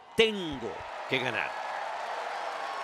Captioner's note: applause